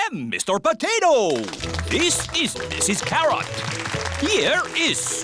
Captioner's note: applause